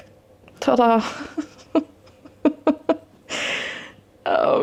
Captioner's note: laughing